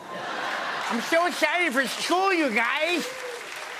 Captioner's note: laughter; lisping; applause